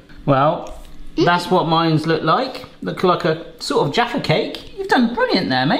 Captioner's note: none